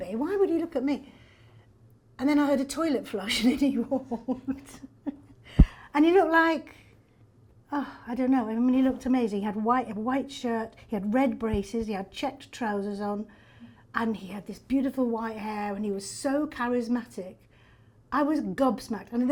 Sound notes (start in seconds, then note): 3.7 laughs